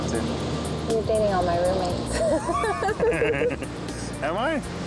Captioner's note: laughter